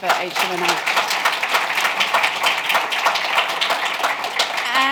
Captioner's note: applause